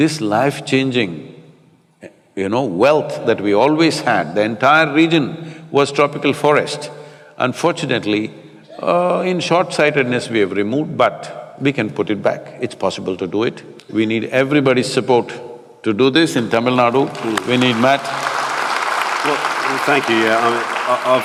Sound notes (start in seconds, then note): 16.8 applause